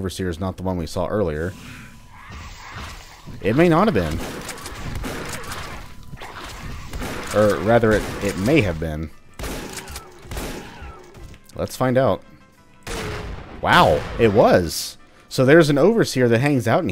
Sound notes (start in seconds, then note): 2.0 Bugdogs snarling; 3.9 shotgunning like mad